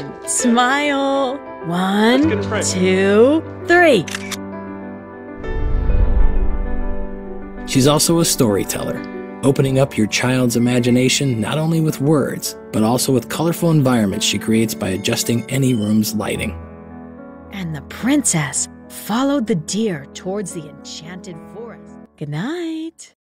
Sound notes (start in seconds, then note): 4.0 digital shutter click; 5.4 whoosh!